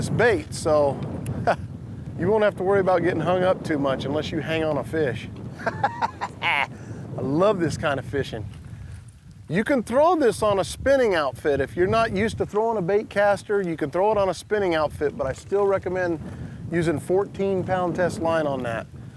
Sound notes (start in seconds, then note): 5.6 laughs